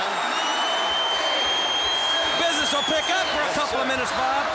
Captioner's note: applause